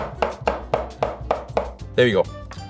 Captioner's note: rhythmic tapping